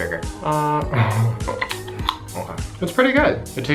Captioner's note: laughs